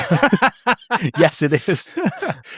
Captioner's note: laughing